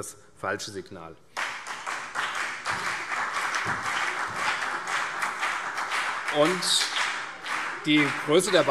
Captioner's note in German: Beifall CDU, BÜNDNIS 90/DIE GRÜNEN und SPD